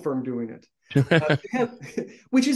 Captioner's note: chuckles